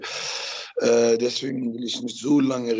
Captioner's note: both are mumbling